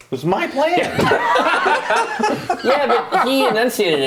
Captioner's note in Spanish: risas